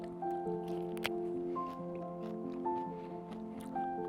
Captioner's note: munching sorrel leaves